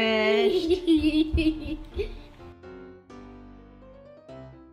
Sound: joyous chuckle

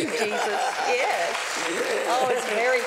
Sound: laughter

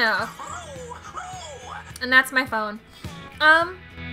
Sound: pigeon man screeches

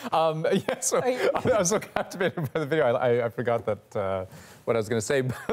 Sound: laughter

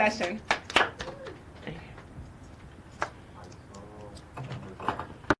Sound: participants applauding

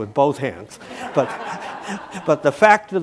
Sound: audience laughing

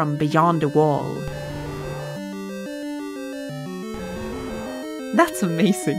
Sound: electronic roaring noise

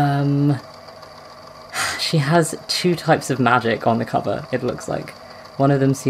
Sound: sighs

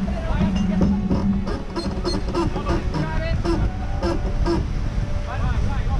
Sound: people talking in background

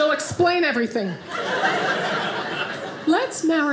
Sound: audience laughing

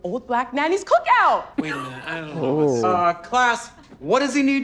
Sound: laughs

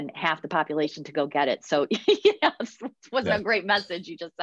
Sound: laughs

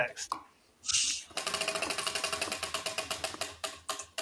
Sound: wheel ticking

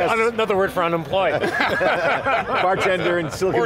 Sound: all laugh

